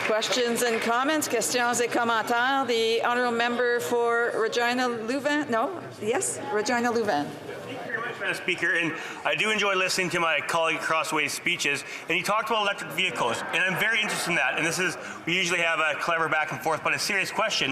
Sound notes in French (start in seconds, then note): 7.6 voix de l'interprète